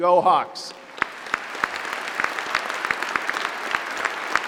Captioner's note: applause